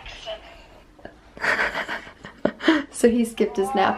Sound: laughing

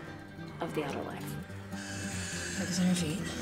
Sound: heavy breathing

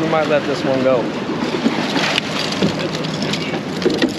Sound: fish thrashing

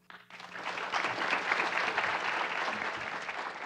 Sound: clapping

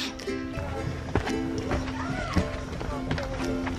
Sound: footsteps

